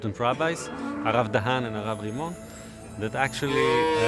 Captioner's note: speaking in Hebrew